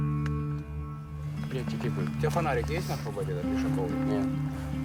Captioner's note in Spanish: Audio hablado en ucraniano